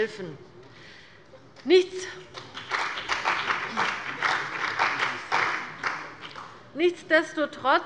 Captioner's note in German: Beifall bei dem BÜNDNIS 90/DIE GRÜNEN und der CDU